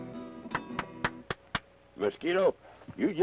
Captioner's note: Carney applauds